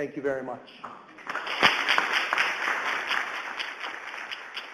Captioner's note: audience applauds